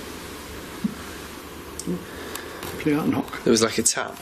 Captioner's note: soft thumping